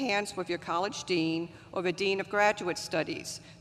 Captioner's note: none